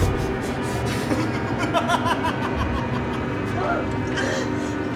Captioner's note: door clattering; tense music continues; Oscar laughing